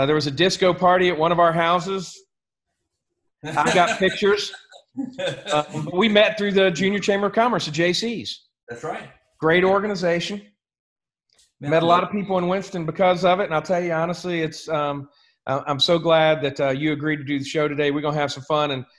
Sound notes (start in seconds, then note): 3.4 laughs